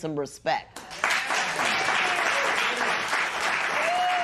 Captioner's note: cheers and applause